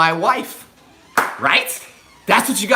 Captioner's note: hands clap